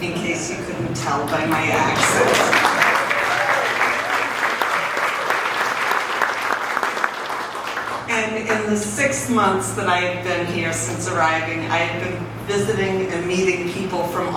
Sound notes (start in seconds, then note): 1.3 audience applauds